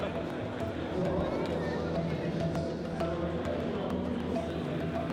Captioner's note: people chattering